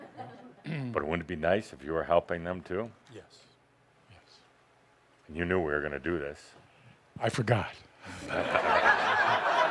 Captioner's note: laughter